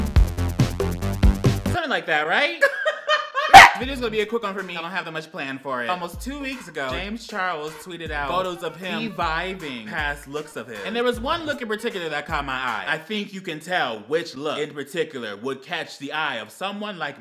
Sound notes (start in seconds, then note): 2.6 laughs